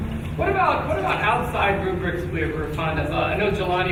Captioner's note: speaking faintly